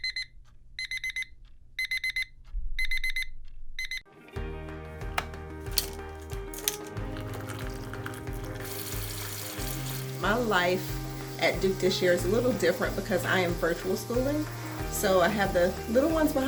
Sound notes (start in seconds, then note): 1.7 alarm beeping; 5.8 soft music